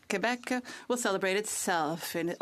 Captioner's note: speaking French